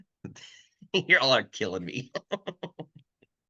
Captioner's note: laughs